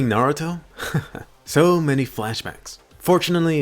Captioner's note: laughs